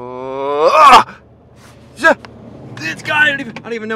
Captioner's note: yells